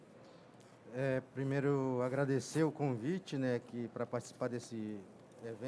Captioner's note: speaking in foreign language